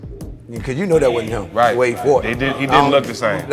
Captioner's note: laughing